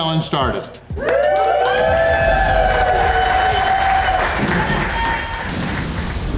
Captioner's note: crowd clapping and cheering